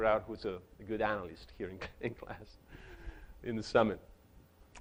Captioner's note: chuckles